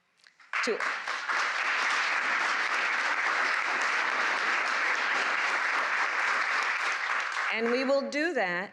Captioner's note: applause